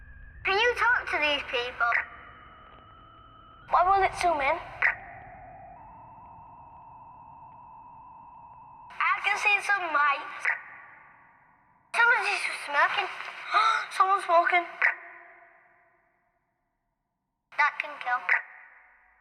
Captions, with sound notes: Can you talk to these people? What will it zoom in? I can see some lights Somebody's smoking *Gasp* Someone's smoking That can kill